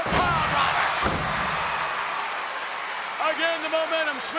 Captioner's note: audience cheering